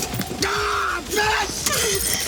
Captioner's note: Graham yells